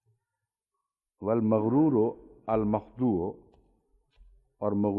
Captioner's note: Arabic